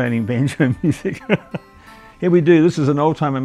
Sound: laughs

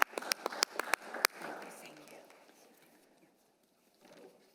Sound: applause

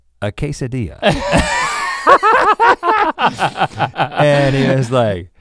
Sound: laugh

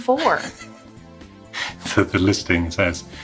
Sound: chuckles

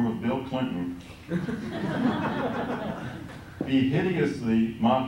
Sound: laughter

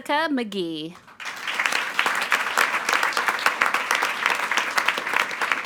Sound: attendees applauding

